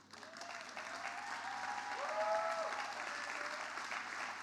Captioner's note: audience applause